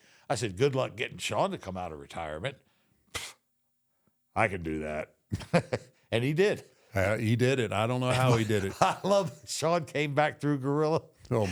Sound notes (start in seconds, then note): 3.2 scoffs; 5.3 Michael laughs